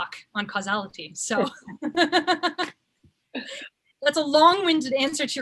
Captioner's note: laughs